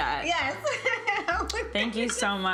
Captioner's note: chuckles